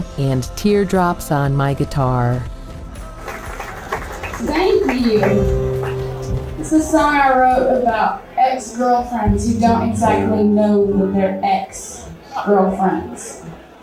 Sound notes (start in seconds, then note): 3.0 clapping